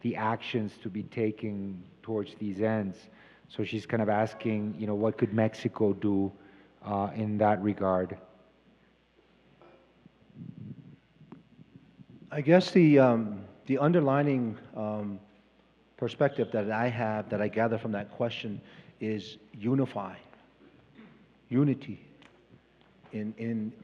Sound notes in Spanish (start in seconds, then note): 3.9 Traductor habla en inglés; 23.6 Expositor habla en inglés; 23.6 Traductor habla en inglés